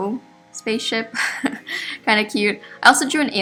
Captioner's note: laughs